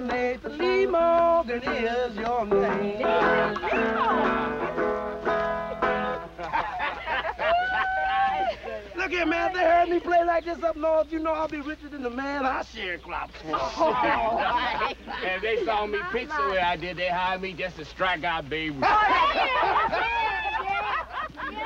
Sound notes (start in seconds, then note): 13.3 laughs; 18.8 laughter